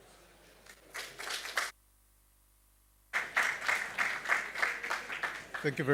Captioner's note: applause